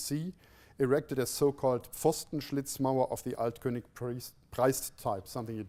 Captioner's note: non-english speech